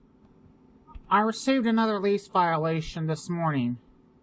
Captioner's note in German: ruhig, aber gequält